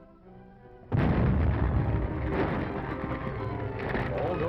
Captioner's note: ka-boom!